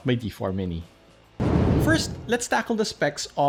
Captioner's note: air whooshing